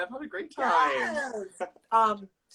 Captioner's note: laughs